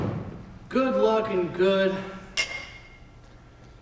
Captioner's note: glasses clink in cheers